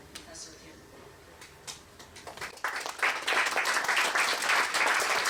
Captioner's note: applause